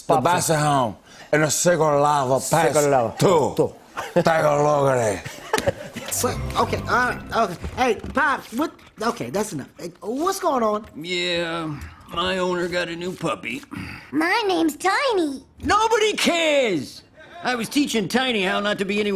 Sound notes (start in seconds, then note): 5.4 laughs